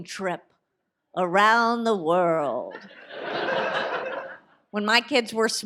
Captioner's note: audience laughs